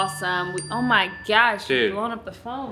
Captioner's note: phone chiming